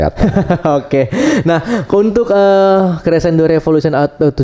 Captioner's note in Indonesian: tertawa; terkesiap